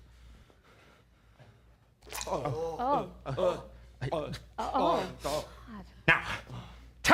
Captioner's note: various gagging sounds